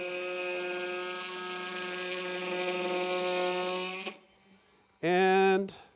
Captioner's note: sawing